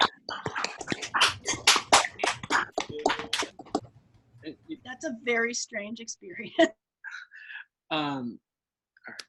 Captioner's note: applause; chuckles